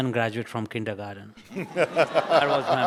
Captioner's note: audience laughs